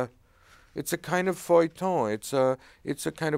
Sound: speaking in foreign language

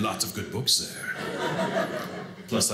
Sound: audience laughing

